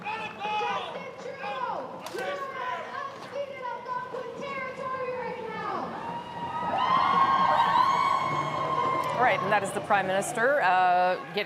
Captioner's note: cheers and Applause